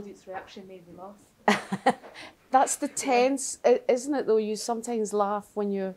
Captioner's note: laughter